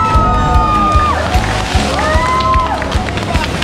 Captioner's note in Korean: 사람들 / 짝짝짝짝